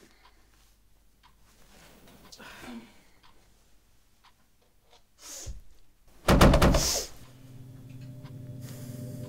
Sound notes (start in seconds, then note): 6.2 pounding